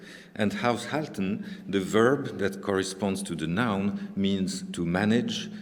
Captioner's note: german